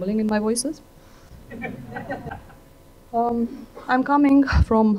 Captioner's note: laughter